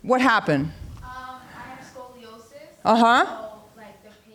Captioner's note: distant voice